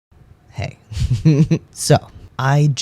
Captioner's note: laugh